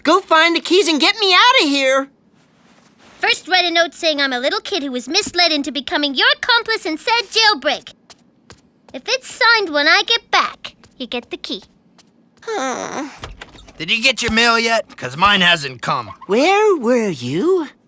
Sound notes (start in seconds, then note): 12.4 sighing; 12.9 door opening